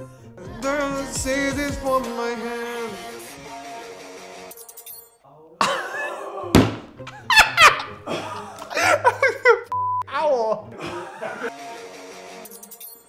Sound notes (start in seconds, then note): 5.4 laughs; 9.7 beeping